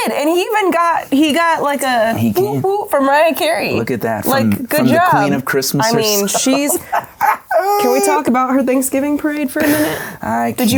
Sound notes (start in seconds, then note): 5.8 laughs